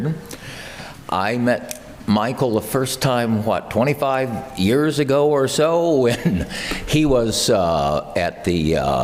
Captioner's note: laugh